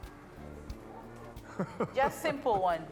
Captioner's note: Peter chuckles